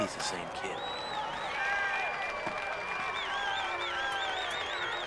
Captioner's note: crowd cheering